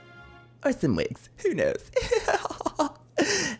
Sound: giggling

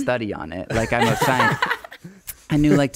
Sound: laughing

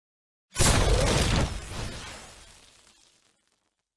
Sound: explosion sound from 3D effect

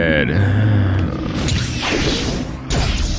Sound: sensual moaning sounds

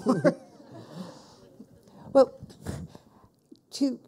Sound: people laughing

